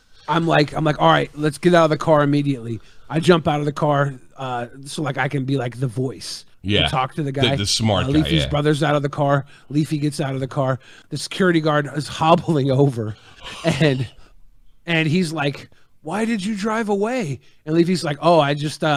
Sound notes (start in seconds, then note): 13.9 gasp